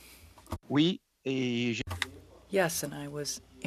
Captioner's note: speaking French